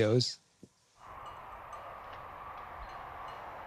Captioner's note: quiet ringing of bells, rustling wind